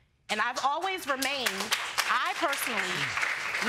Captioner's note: audience applauds